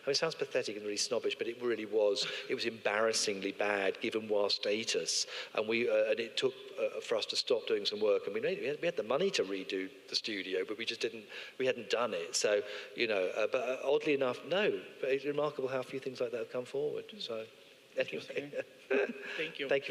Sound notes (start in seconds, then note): 18.8 laughs